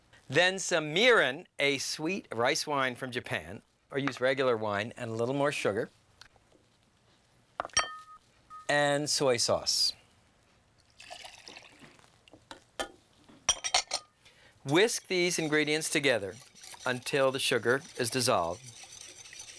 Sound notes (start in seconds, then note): 11.0 liquid splashing; 19.3 whisk scraping